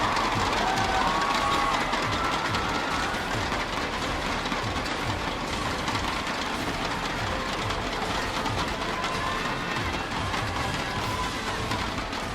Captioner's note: cheering